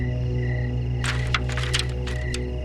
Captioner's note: rattling